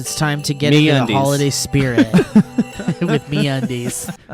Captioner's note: laughs